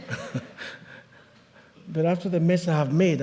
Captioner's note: chuckles